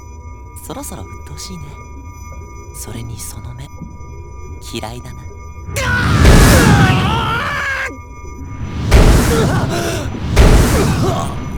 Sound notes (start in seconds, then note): 5.7 pained cry; 5.7 panicked cry; 9.1 pained groan